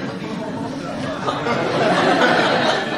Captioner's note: laughter